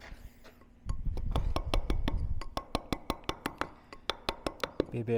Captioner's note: metal hammering